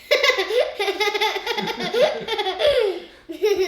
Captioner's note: laughs